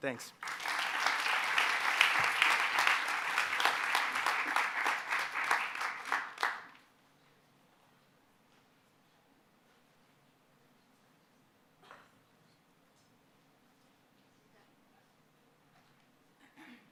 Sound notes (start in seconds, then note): 2.9 applause